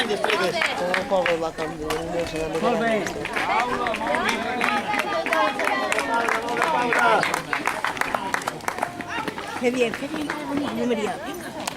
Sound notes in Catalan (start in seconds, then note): 0.0 Aplaudiments i gent que diu "molt bé"; 0.0 Renou ambient i aplaudiments